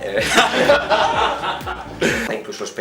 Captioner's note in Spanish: Risas